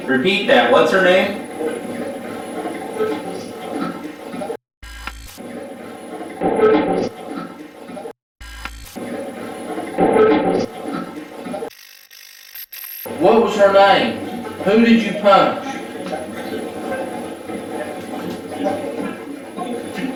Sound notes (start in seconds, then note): 4.9 static fizzing; 5.1 static playback transmitting; 8.9 static fizzing; 13.0 static fizzing; 16.1 static playback transmitting